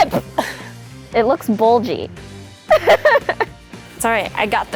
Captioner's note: laughs